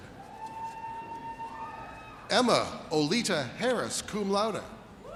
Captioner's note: audience cheers